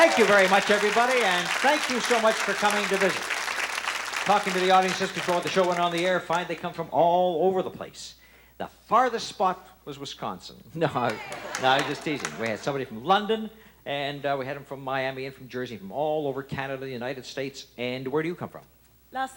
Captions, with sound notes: and thank you so much for coming to visit. Talking to the audience just before the show went on the air, find they come from all over the place. The farthest spot was Wisconsin. -Yay! (applause) -No, (laughs) I'm just teasing. We had somebody from London, and we had 'em from Miami and from Jersey and from all over Canada and the United States. And where do you come from? -Los Angeles.